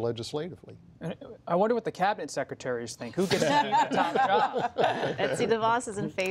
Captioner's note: laughter